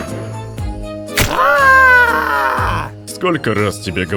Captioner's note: screams